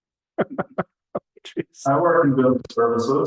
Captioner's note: laughs